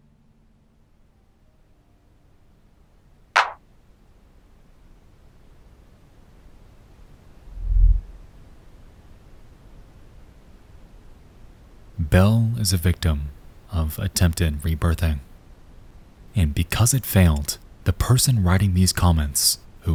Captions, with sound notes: (static sound) (clapping sound) Belle is a victim of attempted rebirthing. And because it failed, the person writing these comments,